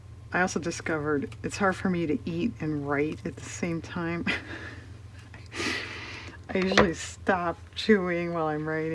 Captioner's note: laughs